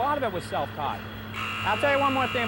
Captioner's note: buzzing